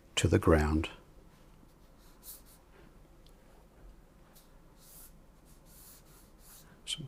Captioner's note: silence